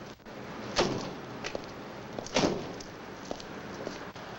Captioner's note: car doors slam